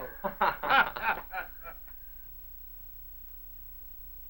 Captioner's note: both laugh